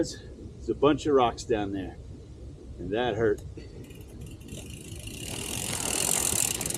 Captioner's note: mountain bike whirring, gravel crunching